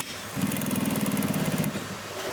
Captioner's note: rattling